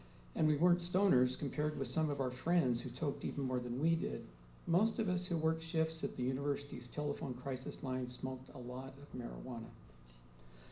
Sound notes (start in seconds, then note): none